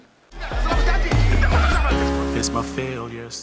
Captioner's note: laughs